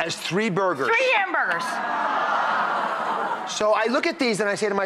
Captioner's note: audience groans